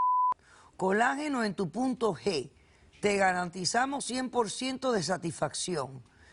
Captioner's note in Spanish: Bip